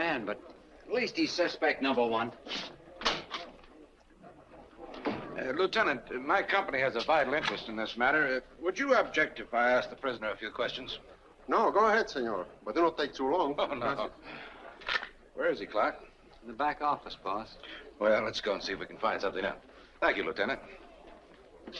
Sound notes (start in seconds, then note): 13.7 chuckles